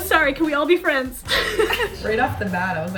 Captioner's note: women laughing